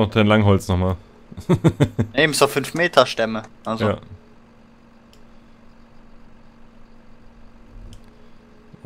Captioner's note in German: lachen